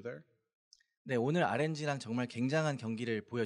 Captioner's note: speaking korean